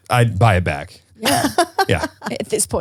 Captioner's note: laughs